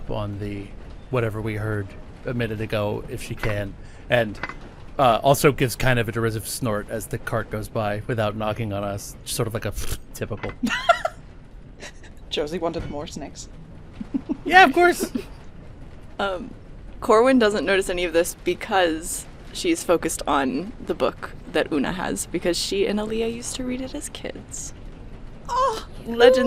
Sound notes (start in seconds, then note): 11.1 snorts; 14.0 laughing